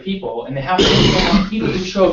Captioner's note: cough